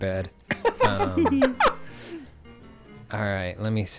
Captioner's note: laughing